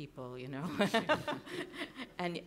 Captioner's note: laughs